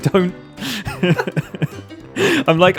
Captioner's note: giggles all round